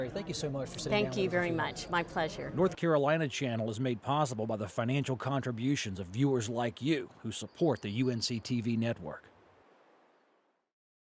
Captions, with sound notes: running in the Republican primary. Thank you so much for sitting down with us-- - Thank you very much, my pleasure. - [Voiceover] North Carolina Channel is made possible by the financial contributions of viewers like you who support the UNC-TV Network.